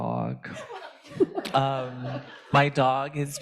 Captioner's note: participants laughing